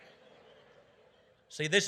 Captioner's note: audience laughing